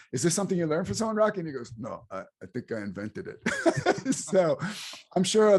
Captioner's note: both laughs